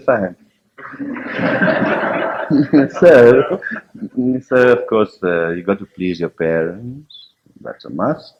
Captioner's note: laughter